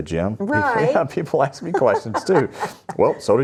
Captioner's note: laughs